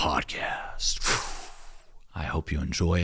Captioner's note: breath whooshing